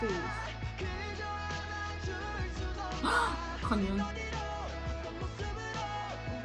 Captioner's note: gasps